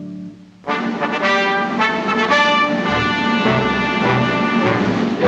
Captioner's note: horns